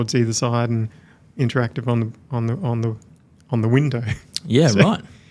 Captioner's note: chuckles